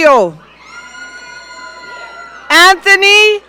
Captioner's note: audience cheering